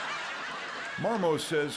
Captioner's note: crowd laughs